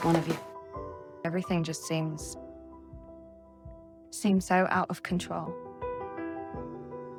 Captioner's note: voiceover